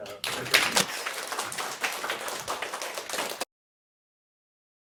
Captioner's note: students clapping